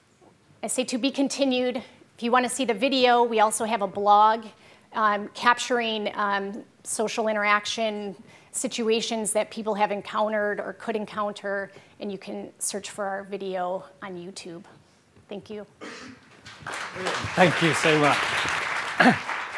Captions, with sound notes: I see "To be continued." If you wanna see the video we also have a blog capturing social interaction situations that people have encountered or could encounter, and you can search for our video on YouTube. Thank you. (applause) - Thank you so much.